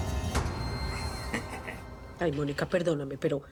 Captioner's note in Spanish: risas